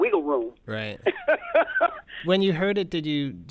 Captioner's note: laughter